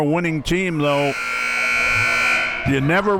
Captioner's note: buzzer blares